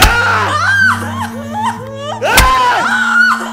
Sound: screaming continues

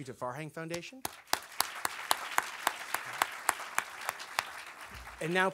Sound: audience applause

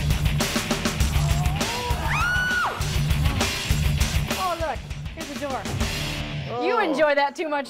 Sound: screams

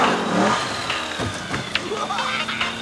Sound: laughing

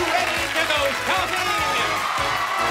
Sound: cheers and applause

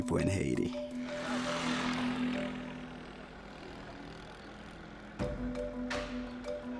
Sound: motorbike engine roaring; upbeat music

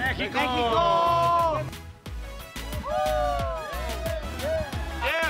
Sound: all cheering

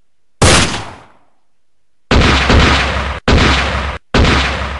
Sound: gun shots

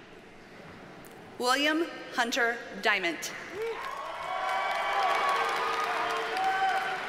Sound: audience cheers and applauds

